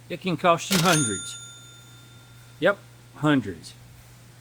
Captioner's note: bell Ringing